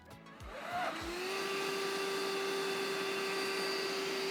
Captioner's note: engine whirring